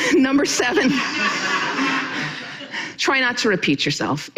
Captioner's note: audience laughing